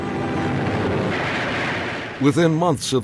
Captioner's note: planes roaring; guns firing